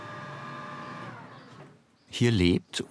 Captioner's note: whirring stops